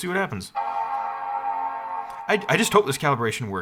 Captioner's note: computer chimes